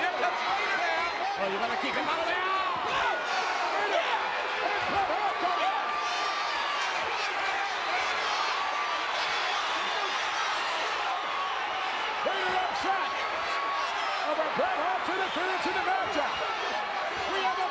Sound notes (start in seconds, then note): 5.4 audience cheers